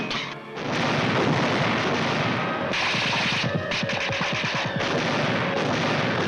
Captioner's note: cannons and guns firing